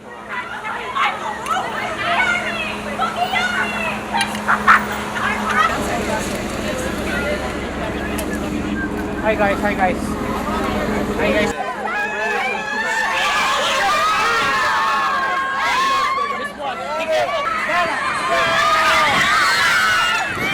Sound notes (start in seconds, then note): 0.2 people chattering; 13.5 people shouting